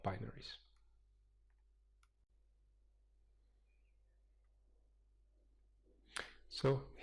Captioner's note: pause